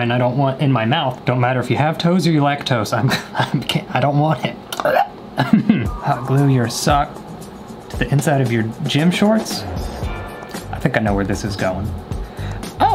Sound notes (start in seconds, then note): 5.4 laughs; 5.4 chokes; 5.4 laughs